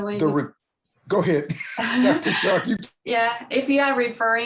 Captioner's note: chuckles